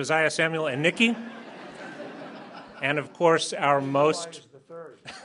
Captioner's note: laughter